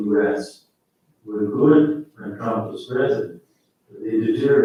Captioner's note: faintly speaking